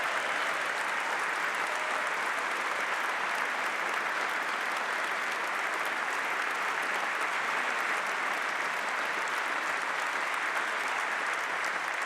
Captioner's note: applause